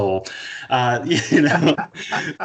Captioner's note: laughing